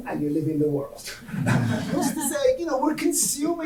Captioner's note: audience laughing